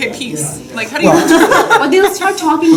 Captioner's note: laughter